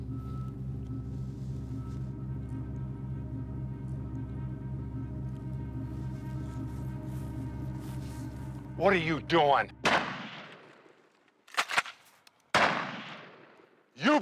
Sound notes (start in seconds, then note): 0.3 tense music continues; 9.8 gun blasting; 11.5 gun pump clacking; 12.5 gun blasting